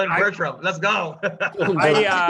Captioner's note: laughs